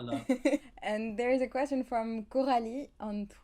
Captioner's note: laugh